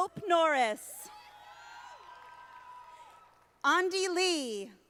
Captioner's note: audience applauding